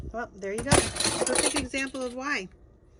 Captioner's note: basic crashing